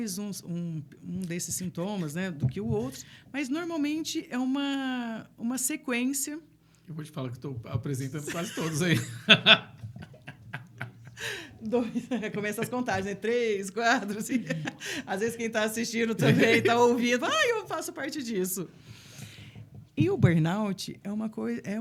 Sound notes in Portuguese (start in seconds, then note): 8.2 risadas; 10.8 suspirando